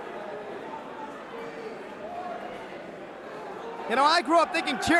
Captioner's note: crowd chatter